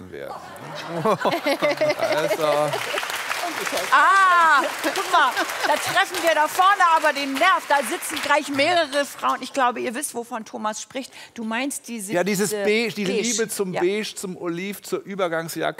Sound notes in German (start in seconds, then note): 0.4 Lachen; 1.5 Applaus